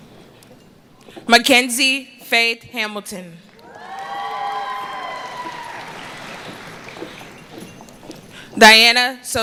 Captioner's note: cheering